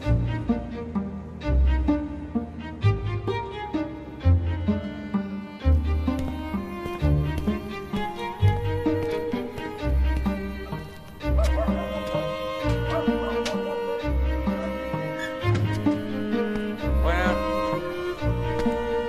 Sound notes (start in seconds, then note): 11.2 dog barking